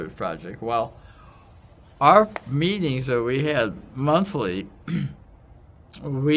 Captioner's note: cough